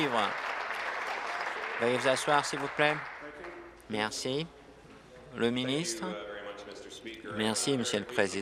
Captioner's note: applause